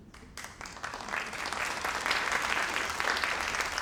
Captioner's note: crowd applauding